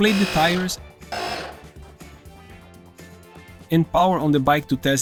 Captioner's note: air compressor noise